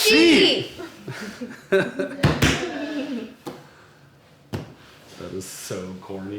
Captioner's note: laughs